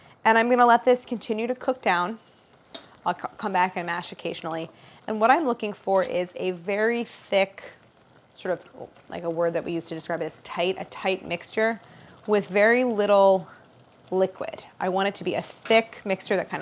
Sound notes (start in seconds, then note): none